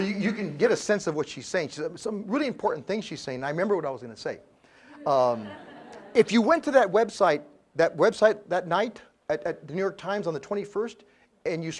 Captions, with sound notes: >> So you can get a sense of what she's saying. Some really important things she's saying. I remember what I was gonna say. >> [LAUGH] >> if you went to that website, that website that night at the New York Times on the 21st and